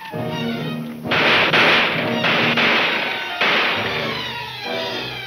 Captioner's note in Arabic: البنادق تطلق النار بشكل عدواني